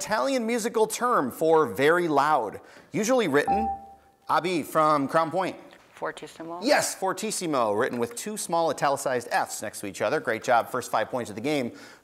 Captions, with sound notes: Give the Italian musical term for very loud, usually written, (buzzer beeps) Abhi from Crown Point. >> Fortissimo? >> Yes, fortissimo, written with two small italicized f's next to each other. Great job, first five points of the game